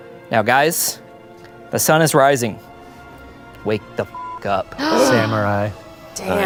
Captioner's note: beep